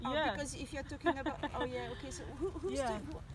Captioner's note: laughter